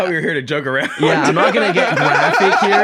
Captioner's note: laughs